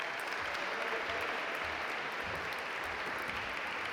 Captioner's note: audience applaud